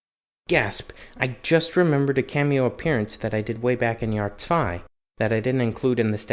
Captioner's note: gasp